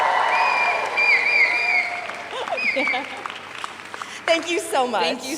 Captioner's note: audience whistles; audience cheers